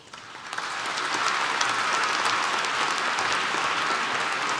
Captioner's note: applause